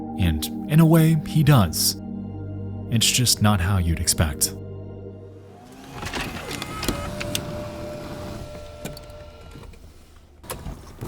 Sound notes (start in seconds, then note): 5.5 machine whirring